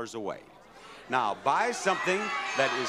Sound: audience cheer

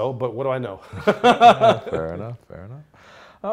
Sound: laughing

